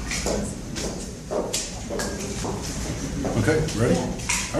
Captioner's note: footsteps; papers rustling